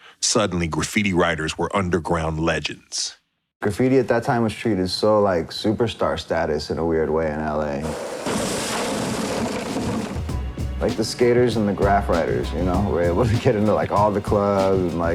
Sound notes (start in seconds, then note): 7.8 skateboards shuffling; 7.9 boxes clattering